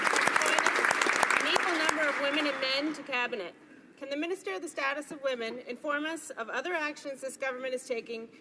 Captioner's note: some Applause